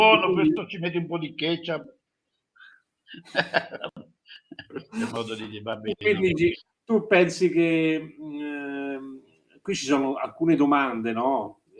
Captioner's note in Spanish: risas